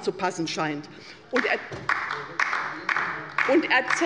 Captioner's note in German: Beifall bei der LINKEN